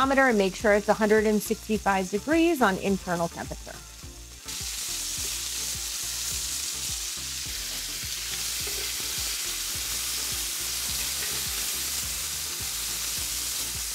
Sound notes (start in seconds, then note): 4.7 chicken sizzling; 4.7 soft music